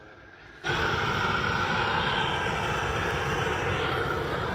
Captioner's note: flamethrower whooshing